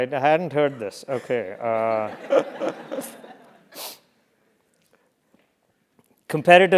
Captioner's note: laugh; laugh